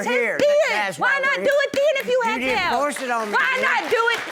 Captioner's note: audience applauds